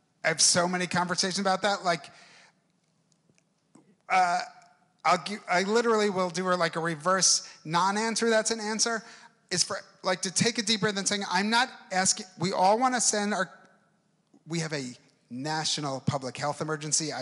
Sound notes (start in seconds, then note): none